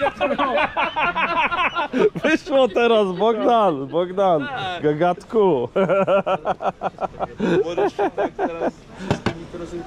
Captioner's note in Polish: śmiech